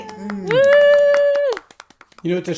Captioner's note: cheering; claps; clapping